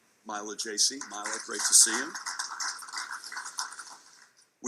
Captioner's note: audience clapping